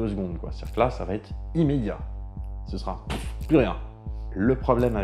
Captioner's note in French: pouf